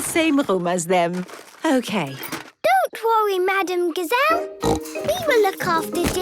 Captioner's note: snorting